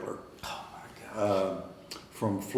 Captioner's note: whispering